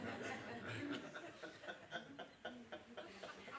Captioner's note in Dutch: gelach